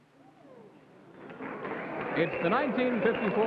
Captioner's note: crowd clapping